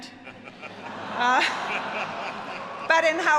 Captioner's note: all laugh